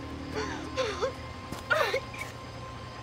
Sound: sobbing

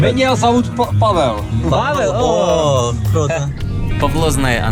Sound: with russian accent

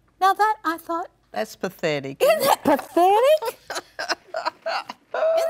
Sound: laughs

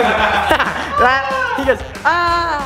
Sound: male Voice; laughing

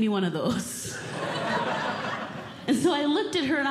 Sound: audience Laughing

